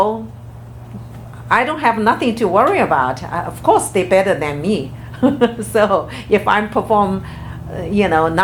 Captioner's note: laughs